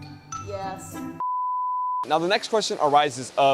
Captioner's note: playful music; beep